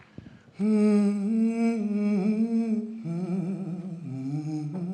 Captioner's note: singer humming